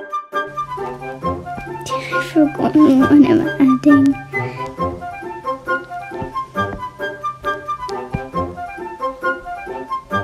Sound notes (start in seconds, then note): 1.8 laughing